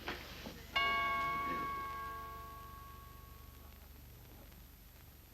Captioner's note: door bell ringing